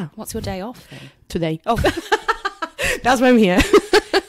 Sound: laughs

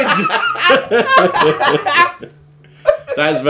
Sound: everyone laughing

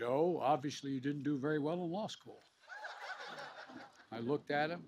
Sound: laughter

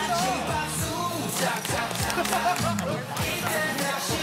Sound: clap clap! Clap clap!

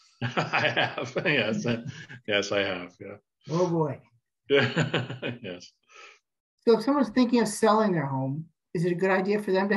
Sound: laughing

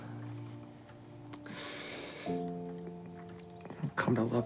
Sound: inhales deeply

